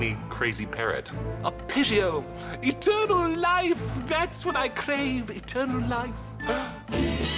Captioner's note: gasps